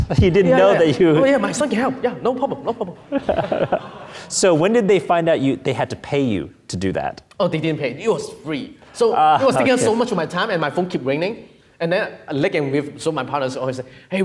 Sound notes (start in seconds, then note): 3.4 audience laughing